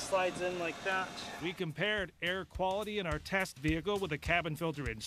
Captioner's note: voiceover